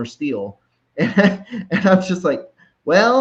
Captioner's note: chuckles